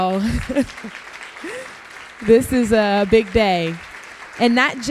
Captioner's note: applause